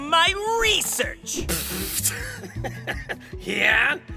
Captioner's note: Giovanni snickers